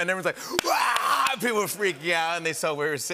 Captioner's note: screaming